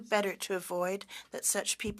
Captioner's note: speaking French